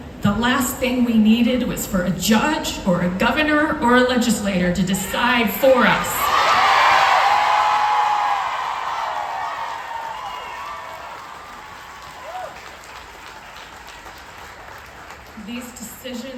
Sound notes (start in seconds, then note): 10.6 crowd cheers